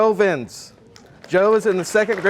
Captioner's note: audience applauding